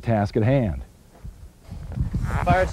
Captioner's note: wind blows